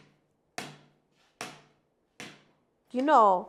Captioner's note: broomstick taps